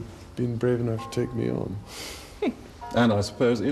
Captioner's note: Diana laughs; voiceover